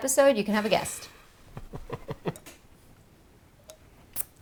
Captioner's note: laughing